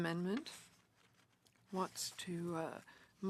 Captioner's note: speaking French